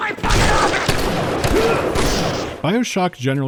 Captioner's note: blam-blam-blam-blam